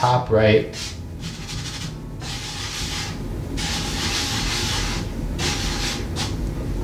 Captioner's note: scratchy noise of flour rubbing